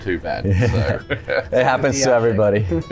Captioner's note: laughter